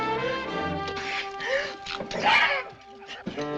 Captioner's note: screeches